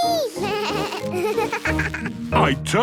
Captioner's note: bleating, laughing